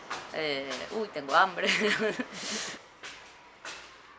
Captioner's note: laughs